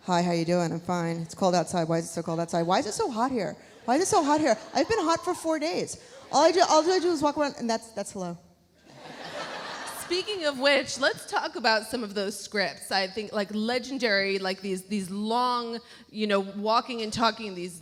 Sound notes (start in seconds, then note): 8.8 audience laughs; 9.0 Kelly laughs